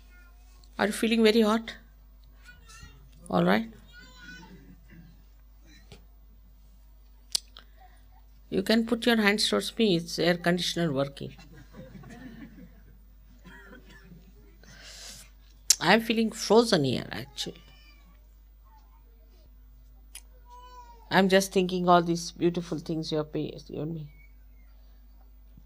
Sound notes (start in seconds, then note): 15.0 laughter